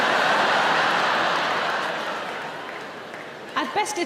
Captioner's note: audience laughing